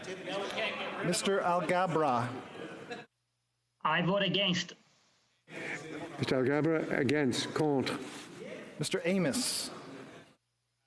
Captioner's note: some Applause